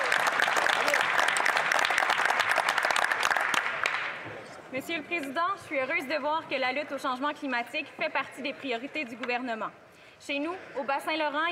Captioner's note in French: applaudissements